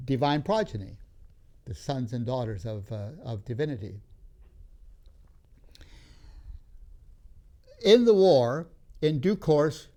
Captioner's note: takes breath